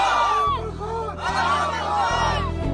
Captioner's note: motivational shouts